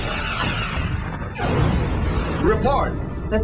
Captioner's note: explosion